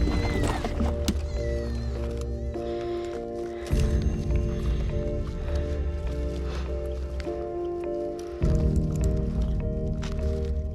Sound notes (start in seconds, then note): 6.2 heavy breathing; 9.9 pensive music continues